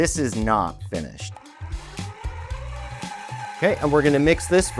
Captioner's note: groovy upbeat music; mixer whirring